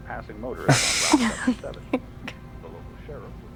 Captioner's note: parents chuckling